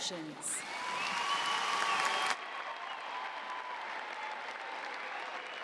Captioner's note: cheering and applause